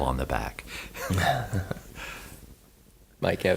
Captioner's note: he laughs